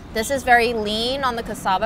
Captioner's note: none